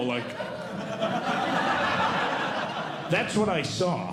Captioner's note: audience Laughing